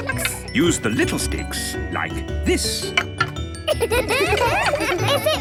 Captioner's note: laughter